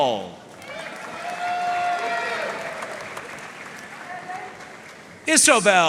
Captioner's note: audience cheering and applauding